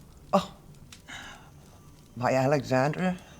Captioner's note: scoffs